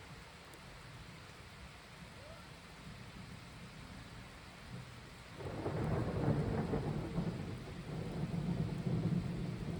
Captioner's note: rainfall and loud clap of thunder